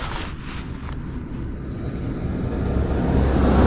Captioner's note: car whooshing